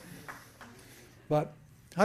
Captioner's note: applause